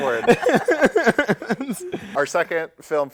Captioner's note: laughter